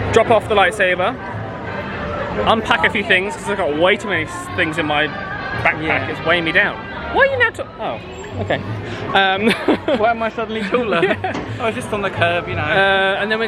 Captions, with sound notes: Drop off the lightsaber Unpack a few things because I've got way too many things in my backpack, it's weighing me down! Why am I suddenly taller? *Laughs* Oh I was just on the curb you know...